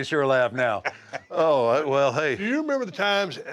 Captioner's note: laugh